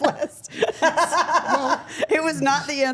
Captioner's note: Steph laughing